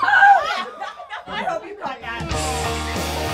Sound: laughing; upbeat country music

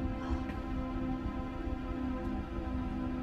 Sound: breathing heavily; suspense background music playing

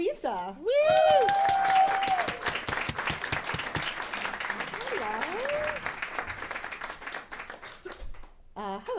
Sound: applause

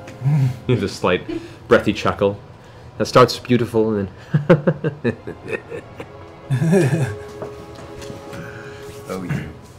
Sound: chuckle turns into a cackle

